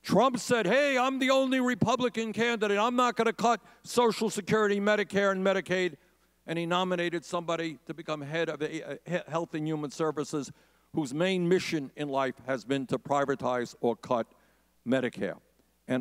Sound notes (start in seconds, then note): none